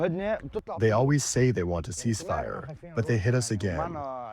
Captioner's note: through translator